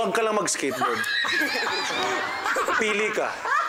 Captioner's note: laughter; silly sfx